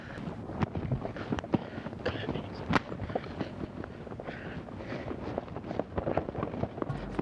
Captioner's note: hoofbeats